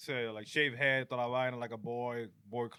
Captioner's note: speaking In Spanish